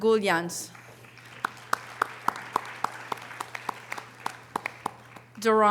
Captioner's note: audience applause